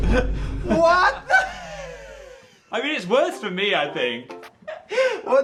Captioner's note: laughing